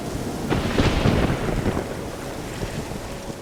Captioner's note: thunder crashes